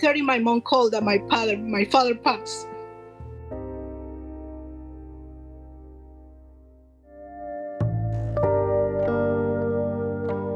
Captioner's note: voice breaks up; slow music continues